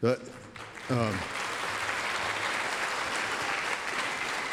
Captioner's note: applause